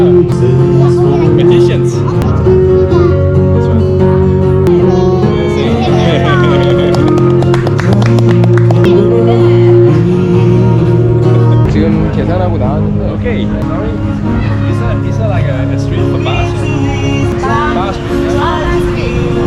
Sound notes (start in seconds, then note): 6.5 clap